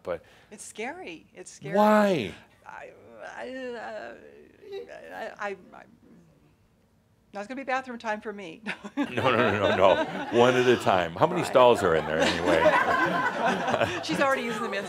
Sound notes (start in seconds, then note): 8.7 they laugh; 11.5 laughter